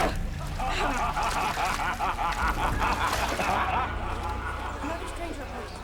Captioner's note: laughing